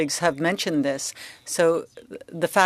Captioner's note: speaking French